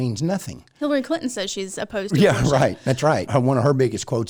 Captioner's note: laughs